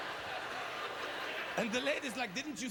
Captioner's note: audience laughter